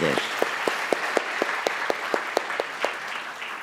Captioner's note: the audience applauds